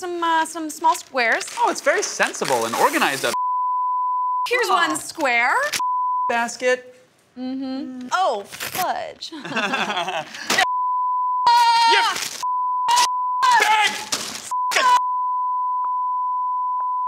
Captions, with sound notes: some small squares. Oh, it's very sensible and organized up (beeping). - Here's one square. - (beeping) basket. - Mm-hmm, oh, fudge! (both laughing) (beeping) (yelling and beeping)